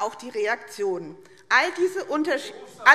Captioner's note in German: Zurufe AfD